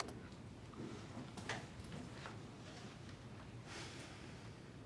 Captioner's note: click